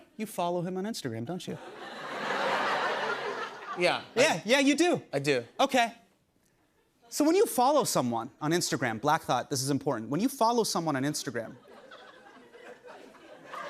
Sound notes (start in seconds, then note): 1.5 laughter